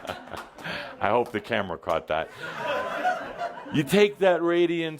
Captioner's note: laughter